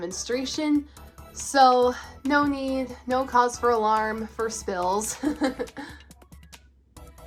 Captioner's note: laughs